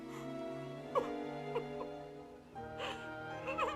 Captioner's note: weeping